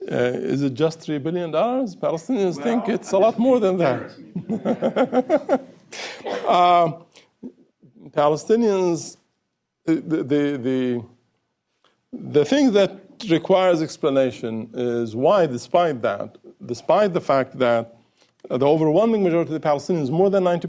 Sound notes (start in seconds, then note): 4.2 laughter